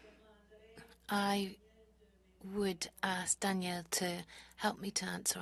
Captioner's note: speaking French